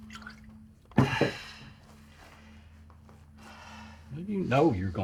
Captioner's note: exhales sharply